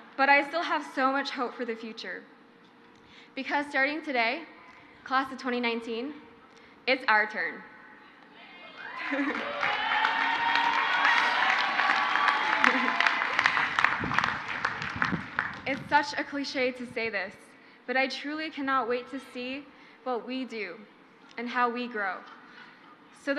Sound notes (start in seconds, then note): 8.5 crowd cheers; 8.7 crowd applauds